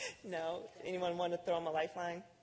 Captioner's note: laughter